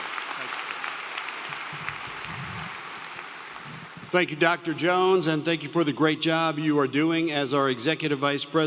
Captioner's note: applause